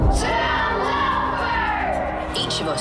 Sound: children chanting

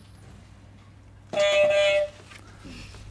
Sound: beep beep

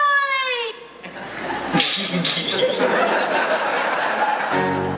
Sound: man laughs

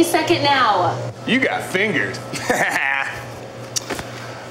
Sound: laughs

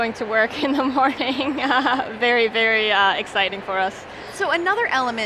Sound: laughs

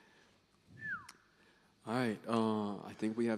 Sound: whistling

